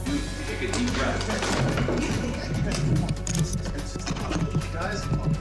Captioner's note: crash